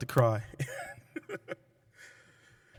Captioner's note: laughter